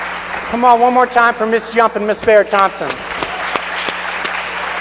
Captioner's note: applause